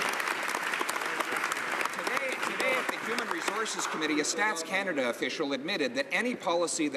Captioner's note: some Applause